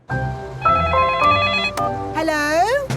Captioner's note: beeping; phone ringing